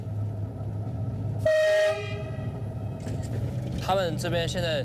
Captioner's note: train horn blaring; speaking foreign language